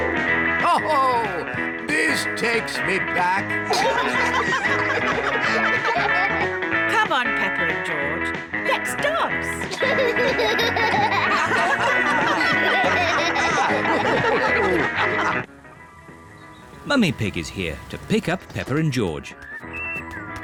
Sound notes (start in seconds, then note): 3.4 all giggle; 9.6 all laugh